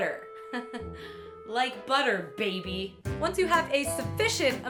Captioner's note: chuckle